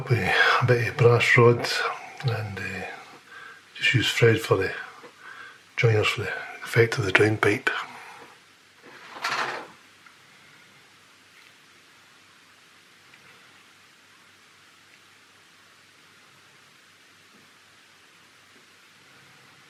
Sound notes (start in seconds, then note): 7.1 guttering